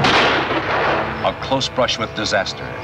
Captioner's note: gun shot popping